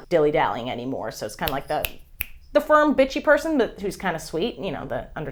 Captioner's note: snap, snap